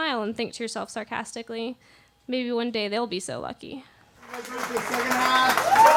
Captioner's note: applause